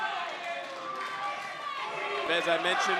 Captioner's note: crowd chanting "You've still got it!"